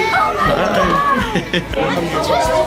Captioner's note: laughter